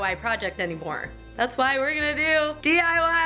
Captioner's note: none